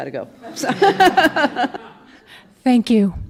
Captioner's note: laughs